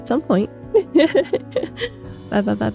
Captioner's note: laughs